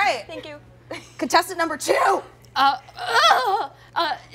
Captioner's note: panicked noises